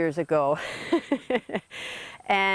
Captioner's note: chuckles